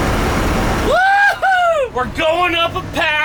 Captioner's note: yells excitedly